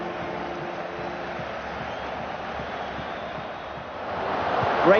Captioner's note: crowd buzzing